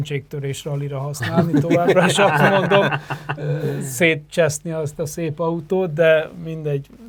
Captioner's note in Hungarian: nevetés